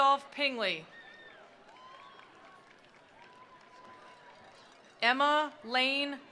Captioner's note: attendees cheering; attendees applauding